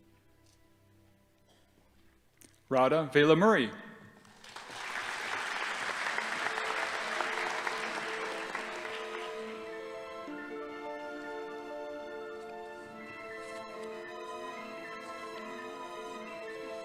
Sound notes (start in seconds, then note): 4.2 audience applauding; 7.8 whimsical orchestral music